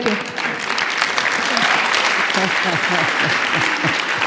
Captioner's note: audience applauds